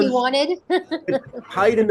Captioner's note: laughter